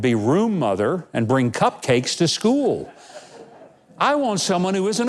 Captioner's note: audience laughing